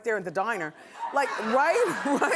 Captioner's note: laughing